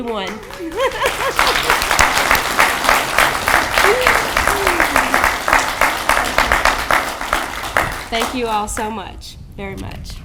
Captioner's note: audience clapping